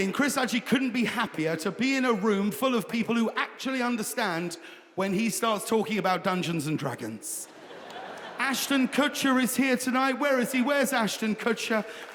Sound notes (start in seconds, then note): 7.4 audience laughing; 11.6 audience applauds